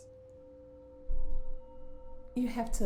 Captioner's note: low humming